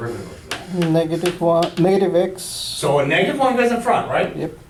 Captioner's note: voiceover